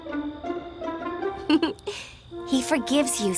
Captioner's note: chuckles